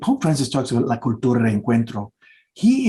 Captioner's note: speaking Spanish